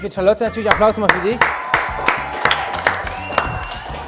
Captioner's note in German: Jubel, Applaus, Pfiffe